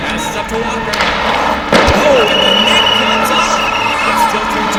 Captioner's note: whistle blows